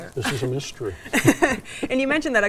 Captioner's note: laughs